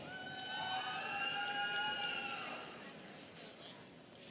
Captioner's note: students cheering